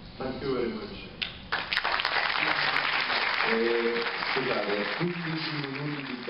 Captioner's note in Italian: Clap, clap